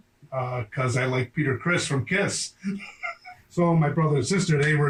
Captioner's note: laughs